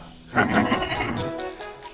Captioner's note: snickers